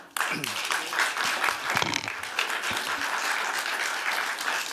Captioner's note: applause